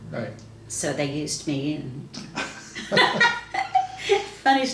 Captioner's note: laughs